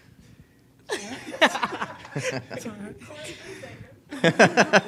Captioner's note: all laugh; laughs